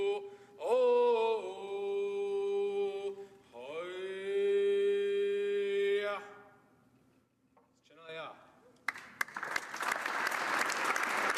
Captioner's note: applause